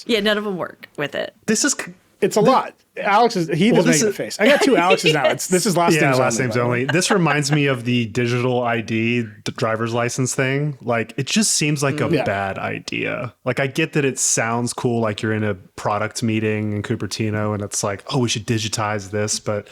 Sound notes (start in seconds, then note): 4.4 laughing